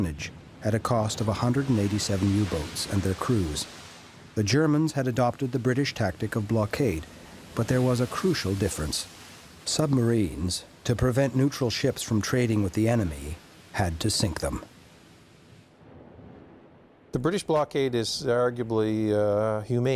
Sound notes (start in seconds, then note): none